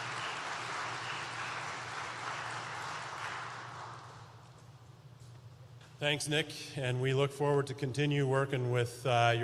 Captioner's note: applause